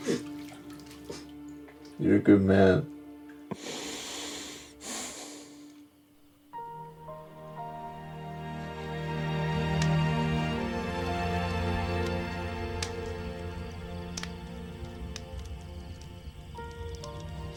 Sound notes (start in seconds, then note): 0.1 both crying; 3.5 Dayne inhales and exhales; 6.6 soft dramatic music; 9.8 fire crackling; 12.2 crickets chirping